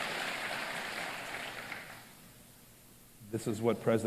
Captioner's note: applause